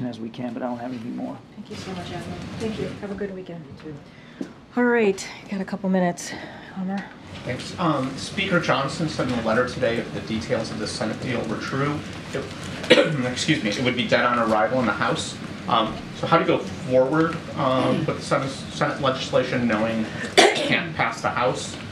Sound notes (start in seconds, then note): 12.6 coughs